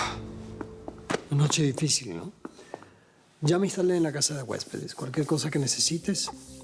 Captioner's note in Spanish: exhala